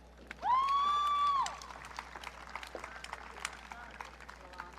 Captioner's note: audience cheering